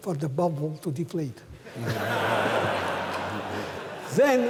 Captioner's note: laughter